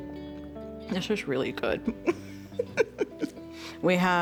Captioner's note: laughs